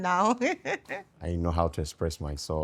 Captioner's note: laughing